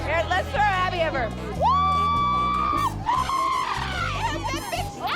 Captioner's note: screams